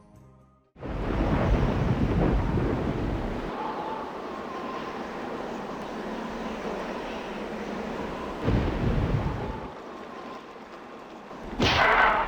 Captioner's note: howling of wind and grumbling of distant thunder